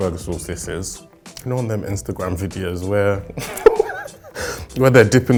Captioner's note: laughing